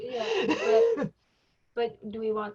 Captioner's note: lady laughs